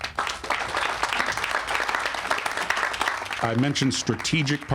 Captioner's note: all applauding